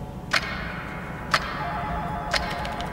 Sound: clock ticking; phone ringing; keyboard clacking

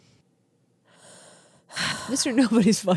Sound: sighs

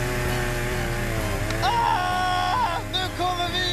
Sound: screaming

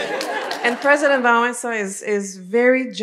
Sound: laughter

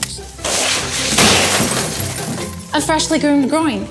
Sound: gifts crashing

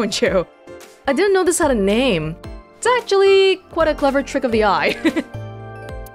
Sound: chuckles

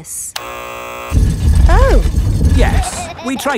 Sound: buzzer sounds

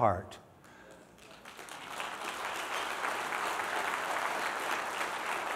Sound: applause

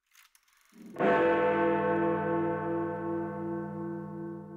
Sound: large bell ring

